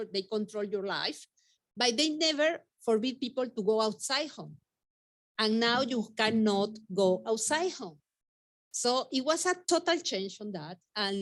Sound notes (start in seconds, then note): 5.6 tapping on desk